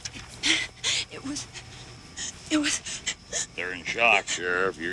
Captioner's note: witness panting; panting